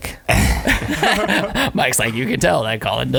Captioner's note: all laughing